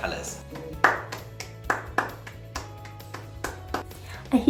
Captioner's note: woman applauding